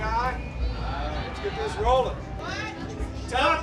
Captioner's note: voiceover